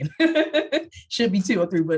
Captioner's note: laughs